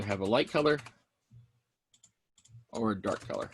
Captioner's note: mouse clicking